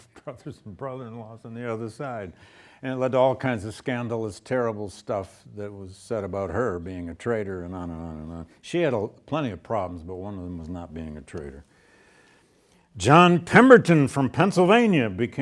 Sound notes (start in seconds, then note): none